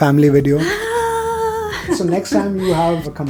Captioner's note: gleeful moan